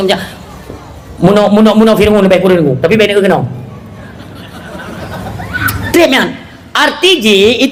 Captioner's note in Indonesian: tertawa